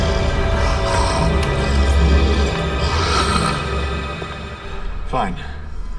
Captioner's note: dramatic music; crow person breathing heavily